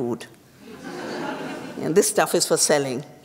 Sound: laughter

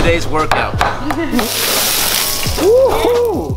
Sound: laughs

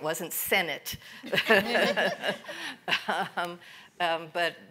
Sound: panel laughs

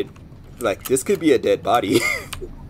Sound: wheeze

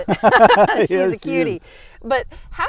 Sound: laughing

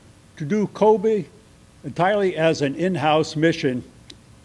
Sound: none

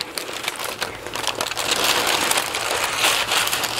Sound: paper rustling

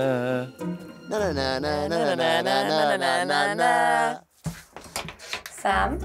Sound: hums original tune

